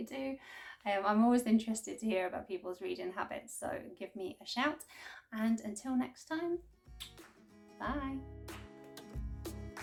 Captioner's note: kiss